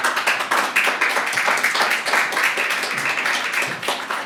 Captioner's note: applause